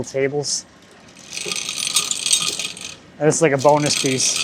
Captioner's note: log saw rattling